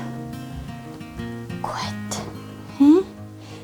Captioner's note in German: Flüsternd